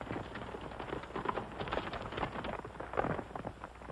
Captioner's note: horse hooves